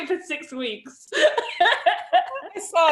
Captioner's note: laughs